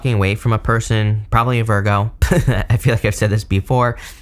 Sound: chuckles

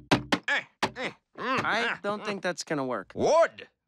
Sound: grunting

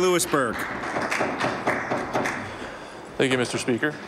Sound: some Applause

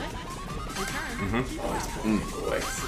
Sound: laugh

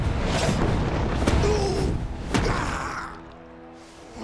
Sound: grunting

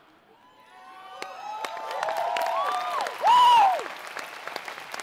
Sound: applause

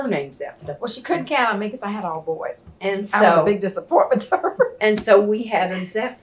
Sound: laughs

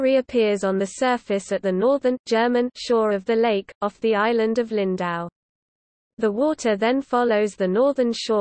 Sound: German

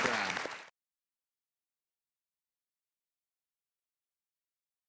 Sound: audience applause

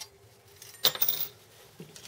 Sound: clink

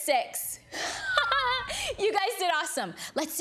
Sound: laughs joyfully

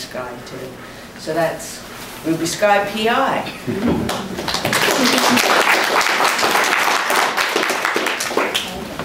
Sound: applauses

